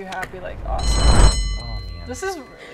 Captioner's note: bell rings